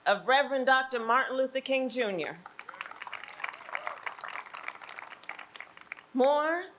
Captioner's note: applause